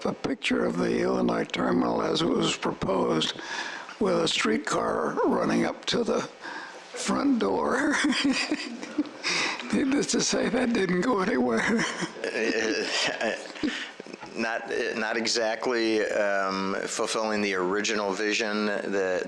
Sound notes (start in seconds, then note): 7.8 laughs